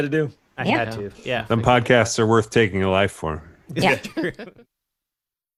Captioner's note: laughing